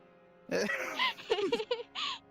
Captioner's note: laughing